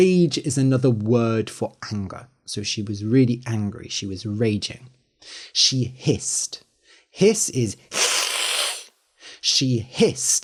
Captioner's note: hisses